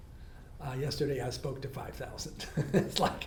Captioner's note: laughs